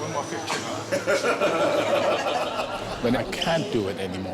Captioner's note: laughter